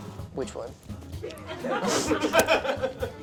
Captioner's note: crew laughs